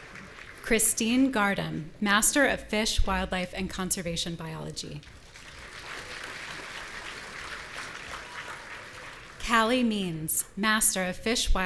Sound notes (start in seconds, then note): 5.2 audience applauding